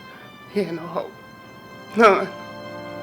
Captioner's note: crying